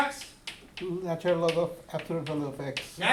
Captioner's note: voiceover